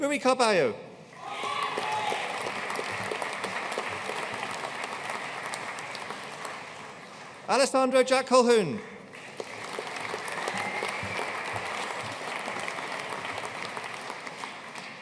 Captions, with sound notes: Rui Carballo. (AUDIENCE CHEERING AND APPLAUDING) Alessandro Jack Colquhoun. (AUDIENCE CHEERING AND APPLAUDING)